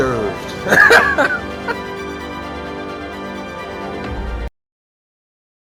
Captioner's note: epic music; laughs